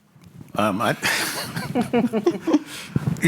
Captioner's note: laughter